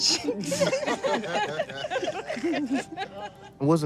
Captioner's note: laughing